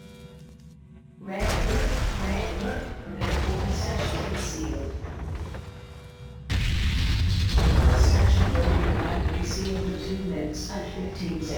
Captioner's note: computer voice; ship taking damage